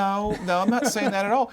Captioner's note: laughs